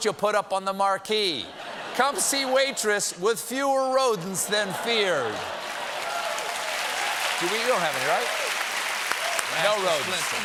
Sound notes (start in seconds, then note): 1.4 laughter; 2.7 applause